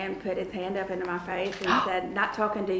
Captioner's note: cat gasps